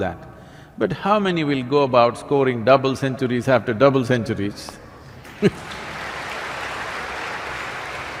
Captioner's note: laughs; applause